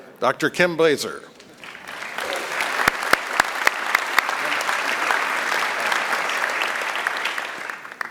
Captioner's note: applause